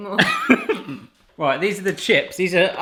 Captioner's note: laughing